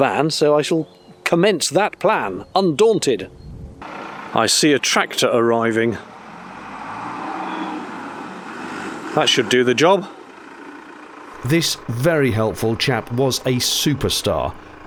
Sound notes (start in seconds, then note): 6.3 tractor revving up